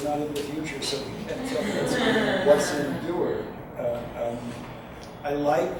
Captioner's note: audience chuckles